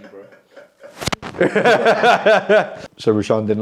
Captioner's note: people laughing